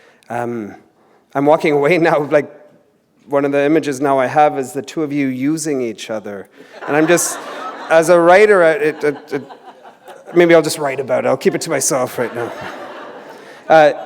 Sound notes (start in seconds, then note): 6.6 laughter